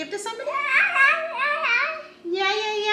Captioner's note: babbling